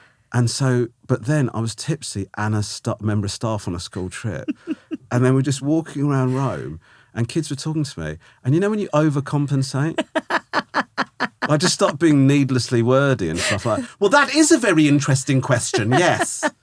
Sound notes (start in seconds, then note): 4.0 laughing; 9.8 laughing